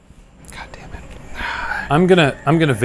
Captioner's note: sighing